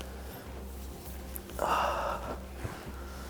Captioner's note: sighs